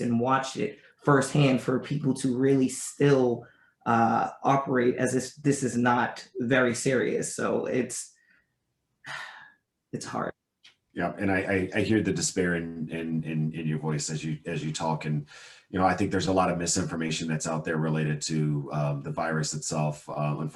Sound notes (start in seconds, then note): 9.0 sighs